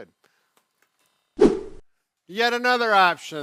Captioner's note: whooshing